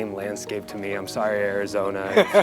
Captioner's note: Baratunde laughs